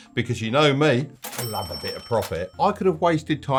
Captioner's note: cash register chimes